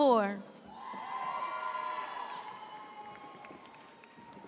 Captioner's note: audience cheers